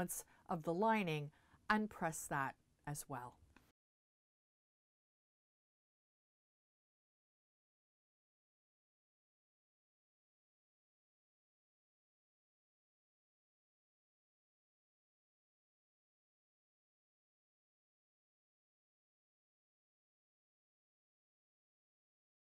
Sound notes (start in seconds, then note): 3.6 no Sound Present